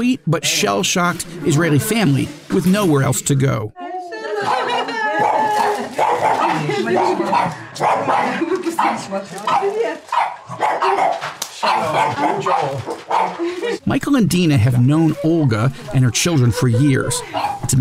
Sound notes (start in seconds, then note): 4.1 dog barking; 4.1 voices in foreign language